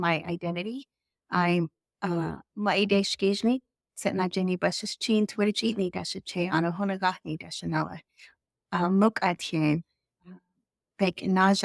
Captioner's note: Speaking Navajo